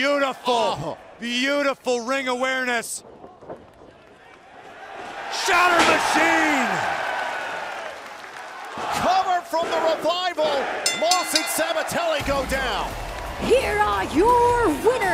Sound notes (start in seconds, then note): 4.8 cheers & applause; 10.8 bell